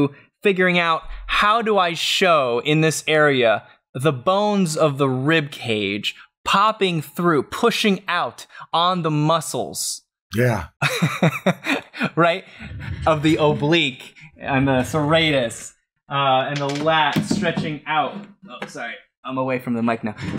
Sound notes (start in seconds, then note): 12.5 laughs